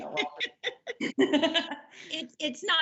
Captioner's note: laughter